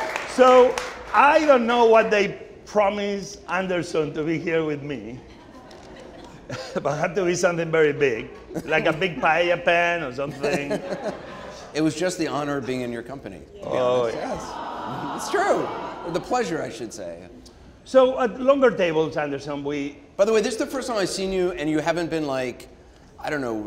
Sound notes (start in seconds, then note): 0.0 audience cheering; 10.0 laughing; 13.6 audience awing